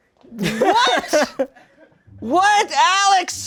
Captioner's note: crew laughs